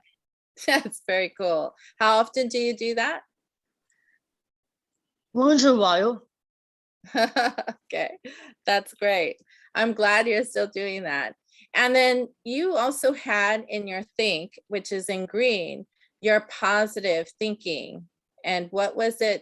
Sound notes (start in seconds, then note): 7.2 laughing